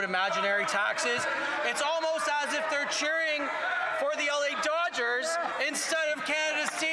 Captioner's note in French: voix de l'interprète